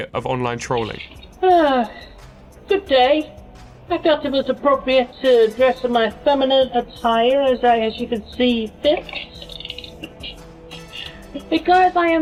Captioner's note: sigh